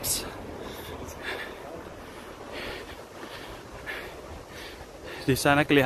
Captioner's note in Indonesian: sounds of respirations